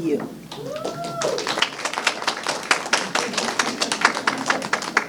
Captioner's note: clapping and praises